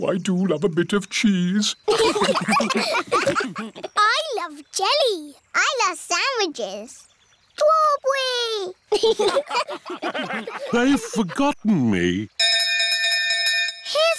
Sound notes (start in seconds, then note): 1.8 laughter; 8.9 laughter